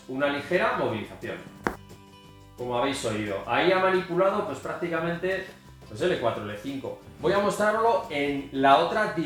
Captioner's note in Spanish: crack